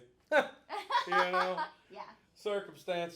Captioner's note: both laughing